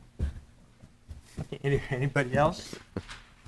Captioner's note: chuckles